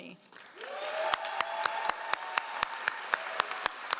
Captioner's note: all applauding